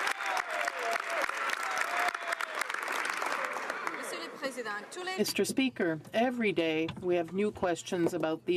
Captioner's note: some Applause